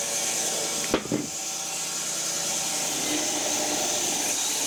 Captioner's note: wood clanging; log saw whirring